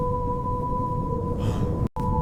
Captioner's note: sighs